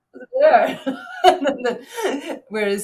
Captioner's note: chuckles